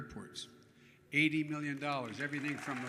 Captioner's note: applause